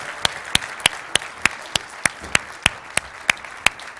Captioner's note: applause